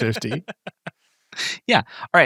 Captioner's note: laughing